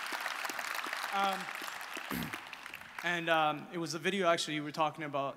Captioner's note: clears throart